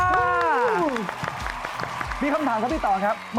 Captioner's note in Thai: เสียงปรบมือ